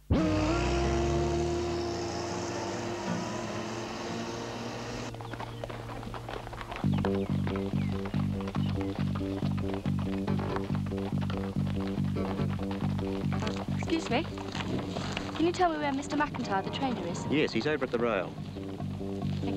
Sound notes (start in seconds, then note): 0.1 tender guitar music; 5.2 hooves clopping; 6.6 upbeat instrumental music